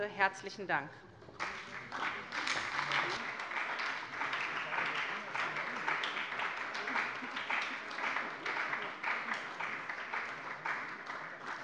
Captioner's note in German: Beifall bei der SPD